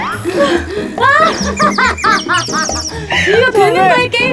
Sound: laughing like crazy

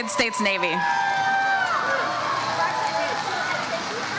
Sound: crowd cheers

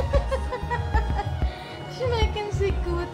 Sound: laughing

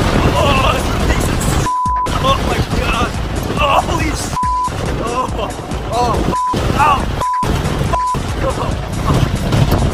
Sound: lots more beeps

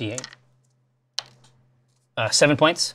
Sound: die clatters

